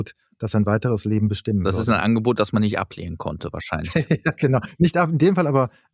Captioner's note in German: gelächter